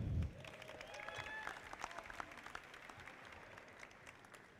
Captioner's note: audience applauding